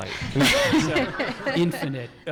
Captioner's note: audience laughing